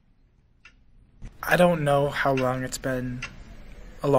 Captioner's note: clock ticking